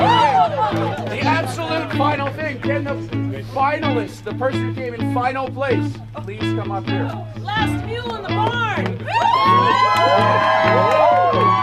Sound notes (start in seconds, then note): 9.0 cheers